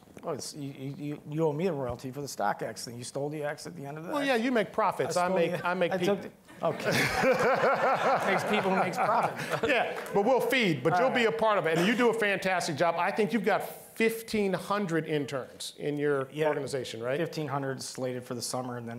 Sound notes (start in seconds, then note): 6.5 all laughing